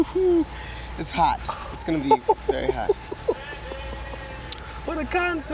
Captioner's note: laughs